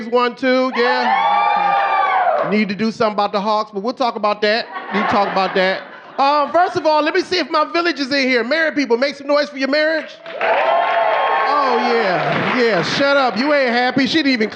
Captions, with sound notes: Yeah. Braves won too, yeah. (audience cheering) Okay. Need to do something about the Hawks, but we'll talk about that. (audience laughing) We'll talk about that. First of all, let me see if my villagers are here! Married people make some noise for your marriage. (audience cheering) Oh, yeah. Yeah.